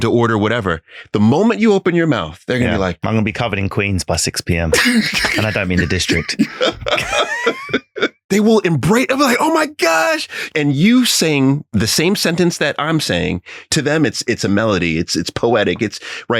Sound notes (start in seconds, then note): 4.7 laughing